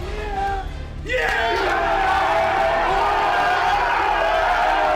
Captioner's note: all cheering